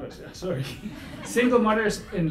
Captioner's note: laughing